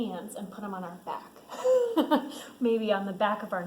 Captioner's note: laughs